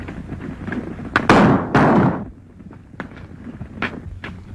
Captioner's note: guns fire